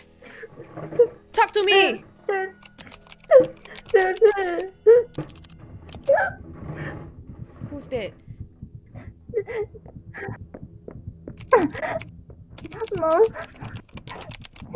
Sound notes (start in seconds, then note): 3.3 Tyler crying; 5.8 Tyler gasps